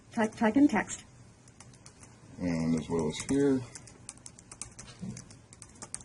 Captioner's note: typing sounds